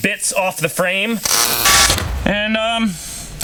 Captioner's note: tools buzzing